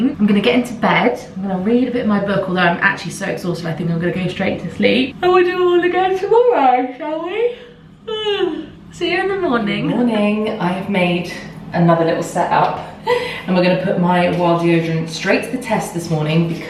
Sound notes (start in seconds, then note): 8.6 yawns